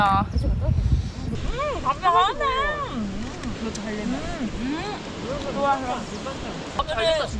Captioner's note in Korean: 여기저기서 맛있다고 소리치는 소리